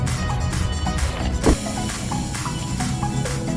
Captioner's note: door closes